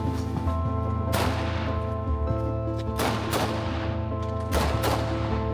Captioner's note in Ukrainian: звуки стрільби по дронах